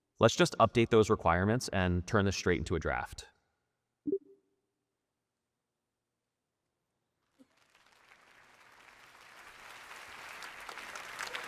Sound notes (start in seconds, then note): 4.0 tone beeping; 7.4 audience applauding